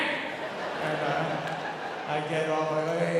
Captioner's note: audience laughing